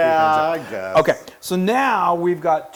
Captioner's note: laugh